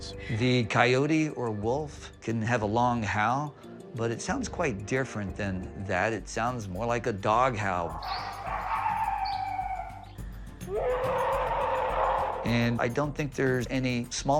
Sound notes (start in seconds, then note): 7.8 wolf howling; 10.7 alleged bigfoot roaring